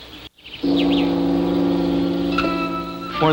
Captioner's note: gong sounds